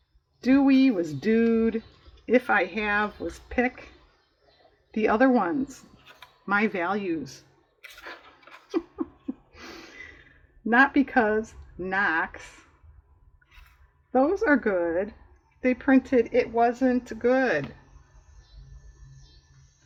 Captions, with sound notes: "do we" was "dude" "if i" have was "pick" "the other ones," "my values" (laughs) "not because," "knocks" "those are good," they printed "it wasn't good"